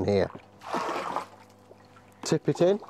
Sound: pouring water

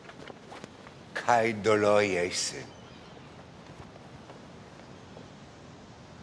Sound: general speaking in foreign language

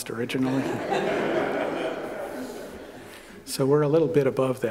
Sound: laughter

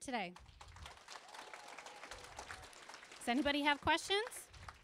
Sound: applause

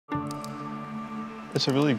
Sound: keyboard clicking

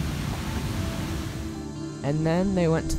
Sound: wind blowing

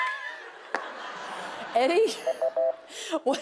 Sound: laughter; beep

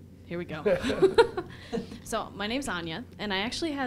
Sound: laughter

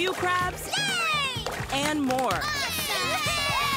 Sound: cheering

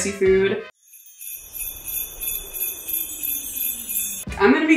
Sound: bells jingling; wind blowing

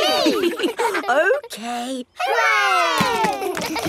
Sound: chuckles

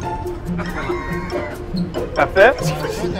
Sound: laughs

